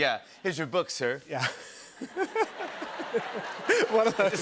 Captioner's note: laughter